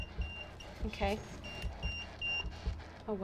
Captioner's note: EMF beeping